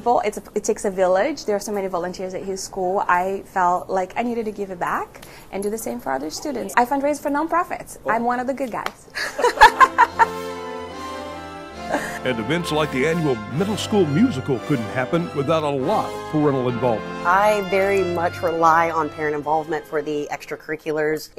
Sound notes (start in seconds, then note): 11.8 laughs